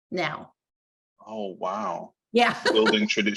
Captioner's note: laughing